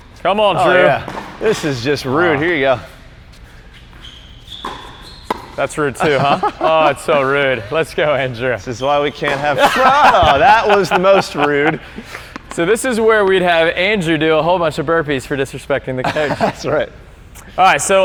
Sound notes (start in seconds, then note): 6.0 laughs; 9.3 all laughing